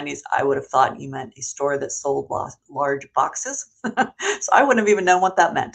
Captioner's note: chuckles